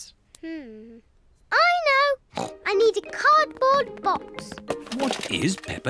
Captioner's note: snorts